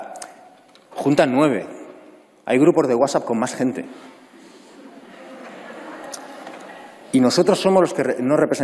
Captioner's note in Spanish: Risas